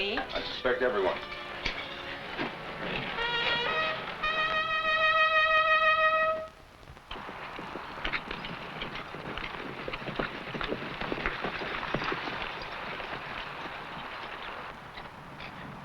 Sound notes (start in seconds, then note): 3.3 trumpet blaring; 7.7 horse hooves pattering